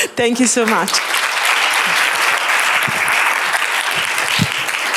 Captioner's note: applause